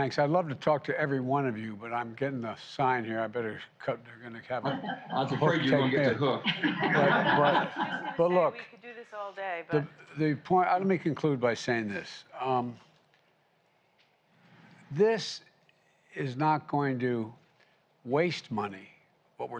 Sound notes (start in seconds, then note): 4.6 laughter